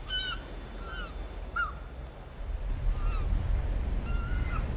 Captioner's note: gulls squawking